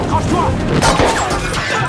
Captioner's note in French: Bruit de tir